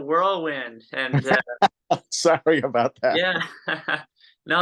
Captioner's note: laughs